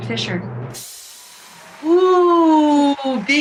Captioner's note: applause